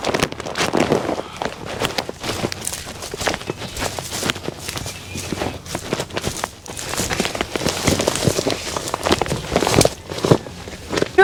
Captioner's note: heavy boots crunch down the path